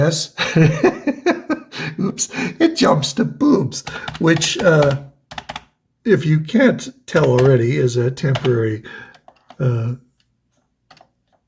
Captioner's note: laughs